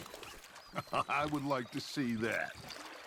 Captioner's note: laughs